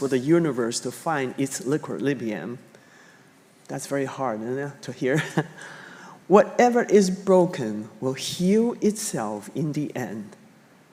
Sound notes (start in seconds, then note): 5.2 chuckling